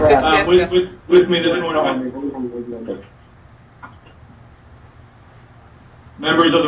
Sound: man speaking in the background

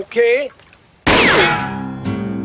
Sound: gunshot

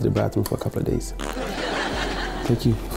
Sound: fart cracks; audience laughs

